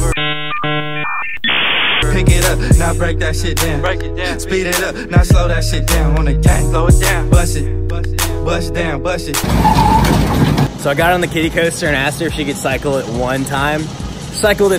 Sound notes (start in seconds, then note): 0.0 modem sound; 2.0 ♫ hip-hop resumes ♫; 9.4 ride noise